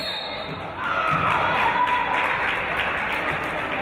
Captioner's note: referee's whistle